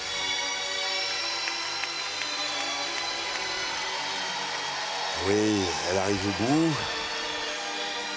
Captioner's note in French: applaudissements